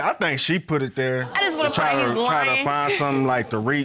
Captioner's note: laughs